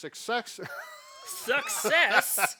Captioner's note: laughs